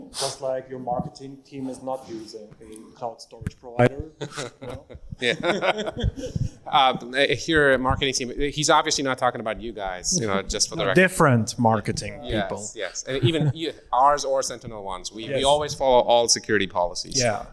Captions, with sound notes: Just like your marketing team is not using a cloud storage provider, you know? (all chuckle) - If you're marketing team, he's obviously not talking about you guys, just for the record. - Different marketing people. - Yes, even ours or SentinelOne's. Yes, we always follow all security policies.